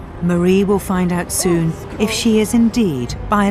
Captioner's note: voiceover